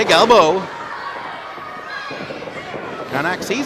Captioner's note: audience yells